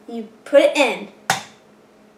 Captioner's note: egg Cracking